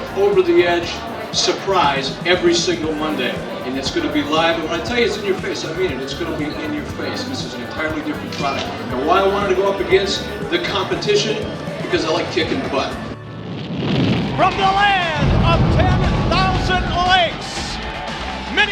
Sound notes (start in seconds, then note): 12.6 flames crackle